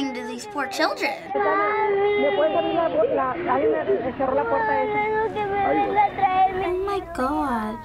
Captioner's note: child sobbing